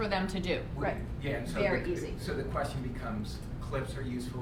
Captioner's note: voiceover